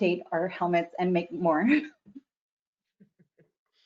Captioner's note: giggles